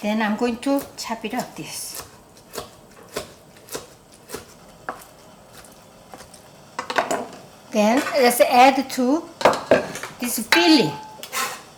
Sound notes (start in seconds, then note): 2.4 knife chopping